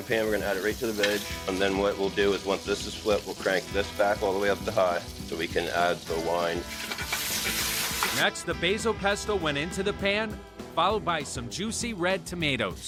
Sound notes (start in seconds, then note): 6.9 pan sizzling